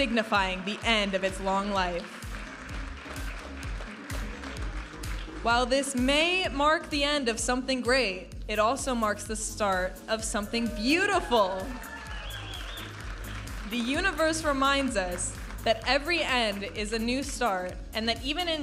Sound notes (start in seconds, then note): 2.9 audience applauding and cheering; 4.5 upbeat music; 11.0 audience applauding and cheering